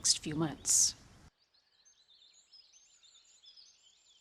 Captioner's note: birds chirping